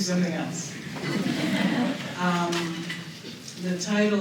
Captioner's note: laughter